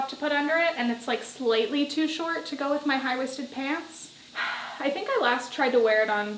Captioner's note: sigh